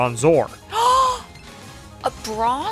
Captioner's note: gasp